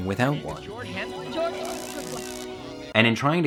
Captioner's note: indistinct chatters